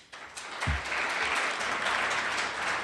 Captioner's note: applause